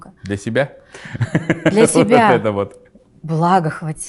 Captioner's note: laughs